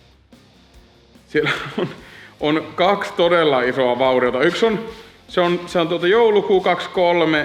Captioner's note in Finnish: naurahtaa